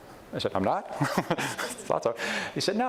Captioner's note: laughs